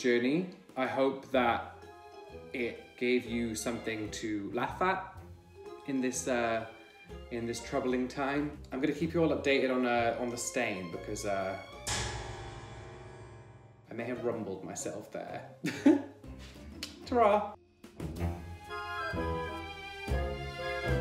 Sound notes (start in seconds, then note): 11.5 dramatic tune; 15.6 chuckles; 17.8 gentle music